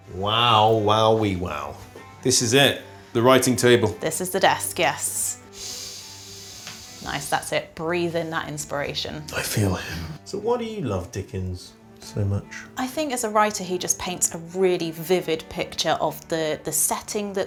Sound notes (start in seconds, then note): 5.4 inhales